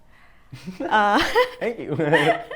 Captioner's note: laughs